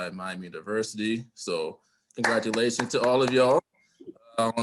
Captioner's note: applause